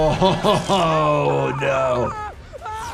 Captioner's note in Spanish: el doctor se ríe; música tensa; Brandon gritando